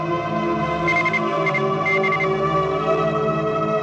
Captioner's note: heart monitor beeping